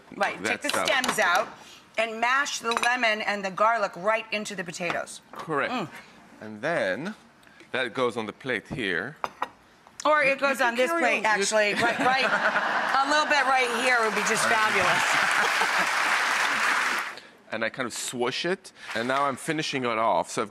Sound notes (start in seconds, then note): 14.3 laughing; 14.9 audience clapping